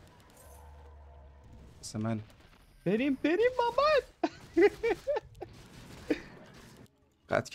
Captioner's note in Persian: خنده